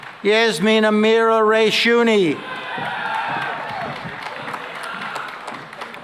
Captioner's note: cheering and applause